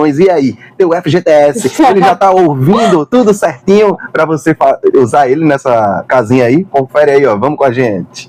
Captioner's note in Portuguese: risadas